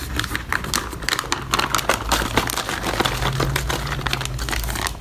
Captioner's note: bag crinkling